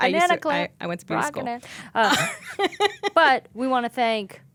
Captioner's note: laughing